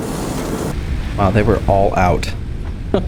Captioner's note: laughing